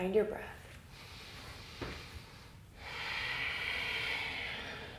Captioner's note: deep breathing